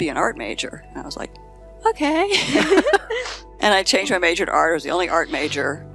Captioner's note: laughing